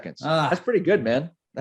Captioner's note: groaning